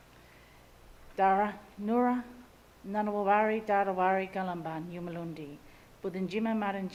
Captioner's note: speaks in Ngunnawal language